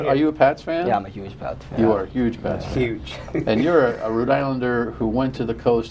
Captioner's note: laughter